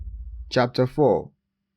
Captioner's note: thud